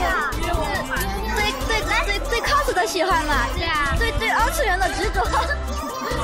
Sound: in mandarin

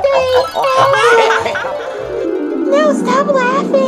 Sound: crowd laughing

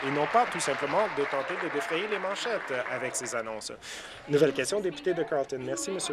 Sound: applause

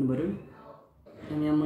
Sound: voices and noises

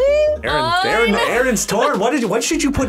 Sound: laughs

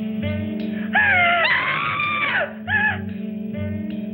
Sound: screams

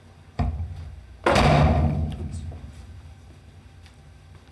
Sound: well door thuds

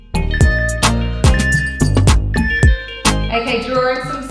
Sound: timer beeping

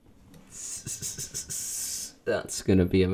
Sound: snake noises in panic

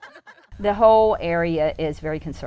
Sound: laughter

